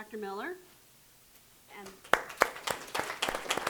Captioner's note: applause